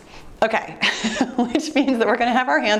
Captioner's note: giggling